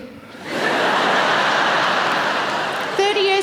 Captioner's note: audience laughing